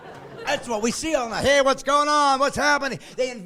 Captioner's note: laughing